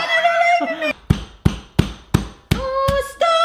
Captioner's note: pounding fist against fruit